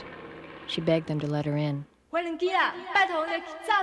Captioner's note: speaking Taiwanese; continues speaking Taiwanese